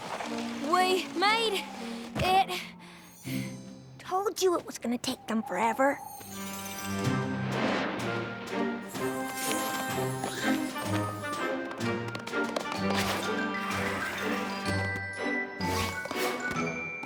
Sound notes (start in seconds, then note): 8.8 tinkling